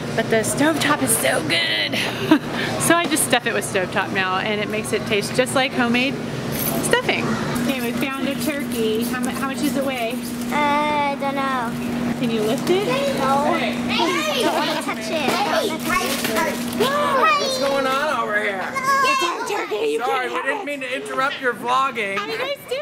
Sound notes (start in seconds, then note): 14.0 laughing; 16.7 kids Shouting